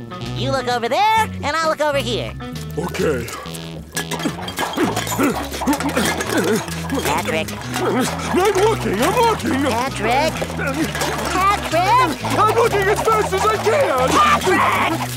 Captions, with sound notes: You look over there and I'll look over here. Okay. [grunting] Patrick? I'm looking. I'm looking. Patrick? Patrick? I'm looking as fast as I can. Patrick!